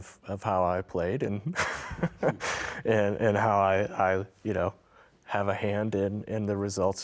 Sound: laughing

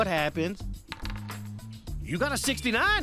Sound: dice clattering

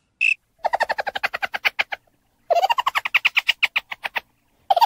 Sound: Metal Henry Laughs

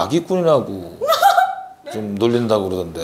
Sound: hahaha!

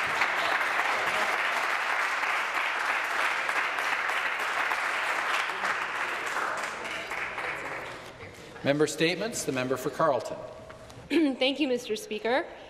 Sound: some applause

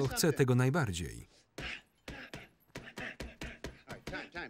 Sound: panting

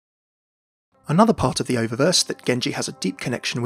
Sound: voiceover

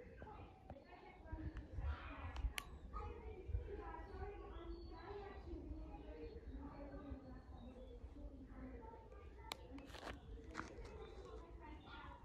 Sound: sound of birdsong and tourists chatting in the distance

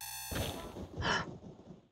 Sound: Sonic CD spike sound; thunder strikes; Sonic CD spike sound; gasp

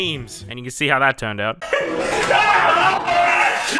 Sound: laughing and Screaming

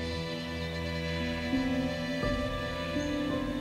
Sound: birds chirping

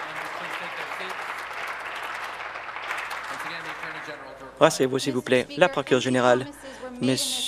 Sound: applause

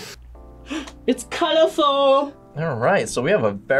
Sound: gasps

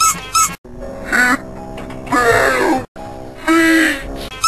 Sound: slowed

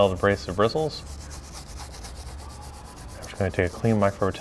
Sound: scrubbing

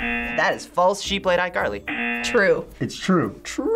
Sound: buzzer rings

